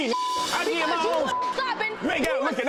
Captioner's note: beep